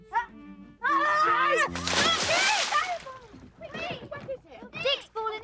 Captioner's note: Dick shouts; children shouting